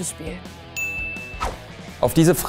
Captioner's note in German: Klingeln